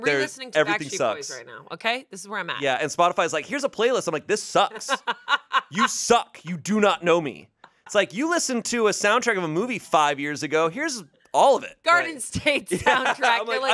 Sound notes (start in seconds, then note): 0.0 beep; 4.6 laughs